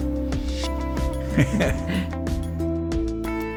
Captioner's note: chuckling